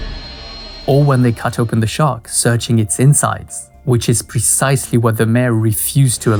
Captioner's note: jump scare